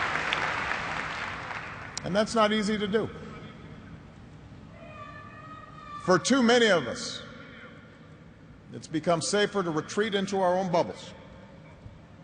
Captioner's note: applause